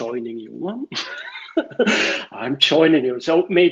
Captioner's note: laughter